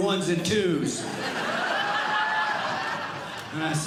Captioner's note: audience Laughing